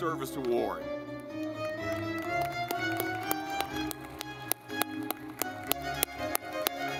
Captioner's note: lively music; audience clapping